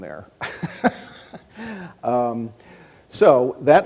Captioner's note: laughs